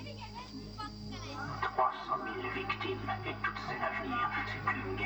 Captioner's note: movie playing